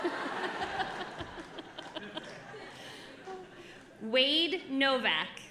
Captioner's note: audience laughing